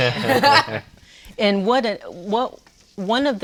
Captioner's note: laughs